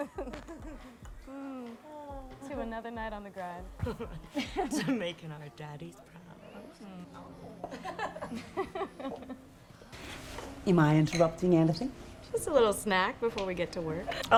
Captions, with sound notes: To another night on the grind. To making our daddy's proud. Hmm. Aw. [LAUGHS] [LAUGHS] Am I interrupting anything? Just a little snack before we get to work.